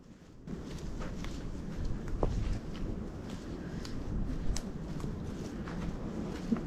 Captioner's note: wind